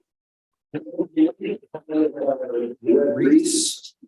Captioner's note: mumbles